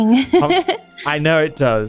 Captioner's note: laughs